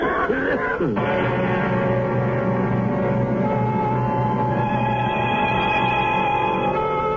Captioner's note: coughing